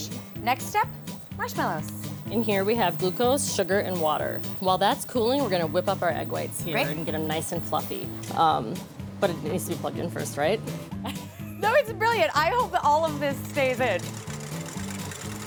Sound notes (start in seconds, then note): 11.0 laughter